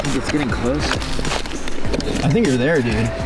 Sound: scraping sound

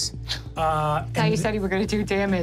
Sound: scoffs

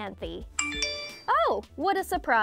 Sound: loud chiming

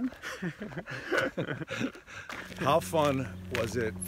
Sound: laughs

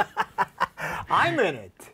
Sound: laughing

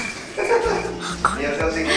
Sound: laughing at the back

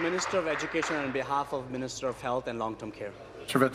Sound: applause

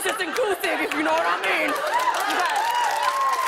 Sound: cheers and applause

